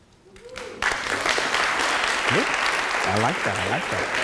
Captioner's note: applause